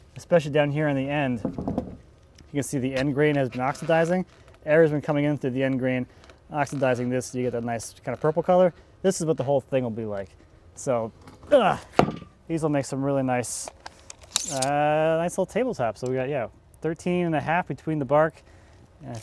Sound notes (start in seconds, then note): none